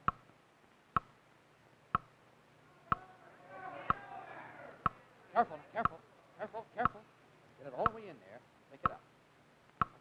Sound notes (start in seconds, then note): 0.0 clock ticking; 2.7 audience yelling